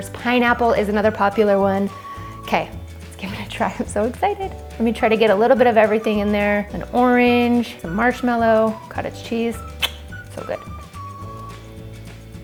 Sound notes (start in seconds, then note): 9.7 clicks tongue